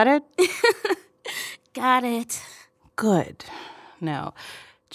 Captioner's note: giggling